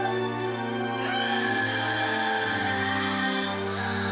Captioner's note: screaming